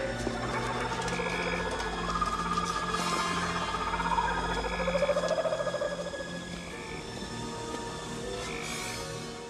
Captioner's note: jungle Noises